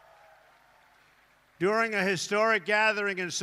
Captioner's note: applause